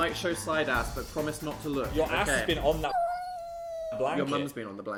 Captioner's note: cat meows